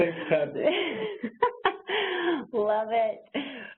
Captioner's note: laughs